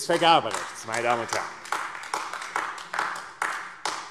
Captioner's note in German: Beifall AfD